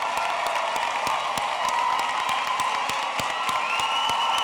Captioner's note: cheering and Applause